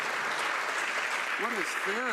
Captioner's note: some Applause